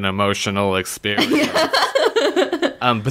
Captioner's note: laughs